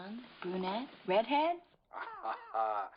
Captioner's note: charlie laughs